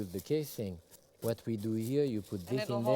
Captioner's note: wrap rustling